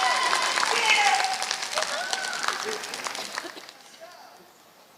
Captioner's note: applause